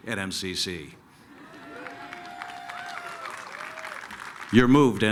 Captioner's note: applause, cheering